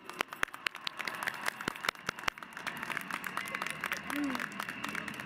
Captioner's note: applause